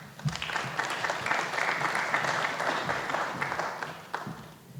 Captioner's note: applause